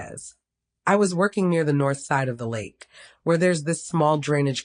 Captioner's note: speaking with accent